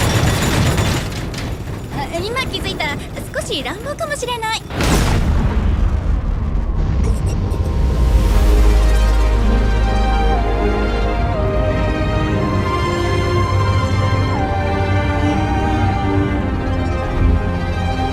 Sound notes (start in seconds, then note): 0.2 blocks thudding; 4.7 kaboom!!; 7.0 trippy music plays